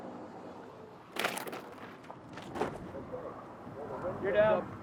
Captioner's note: drone scrapes dirt